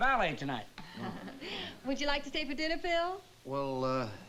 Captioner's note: chuckles